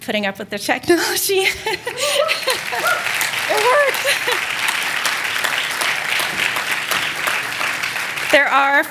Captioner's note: laughter; applause